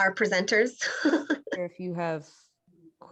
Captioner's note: laughter